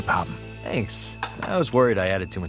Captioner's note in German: englisch